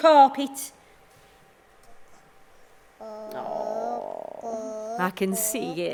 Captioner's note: the sound of a small child playing